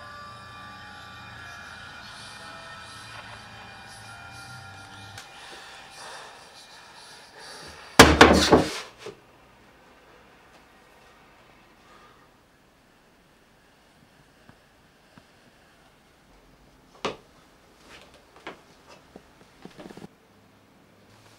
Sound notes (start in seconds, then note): 0.1 ghostly whispering; 8.0 loud thud